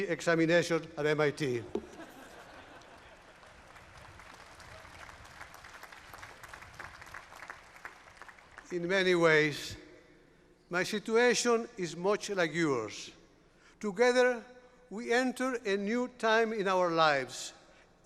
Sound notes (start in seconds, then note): 1.7 laughter; 2.7 applause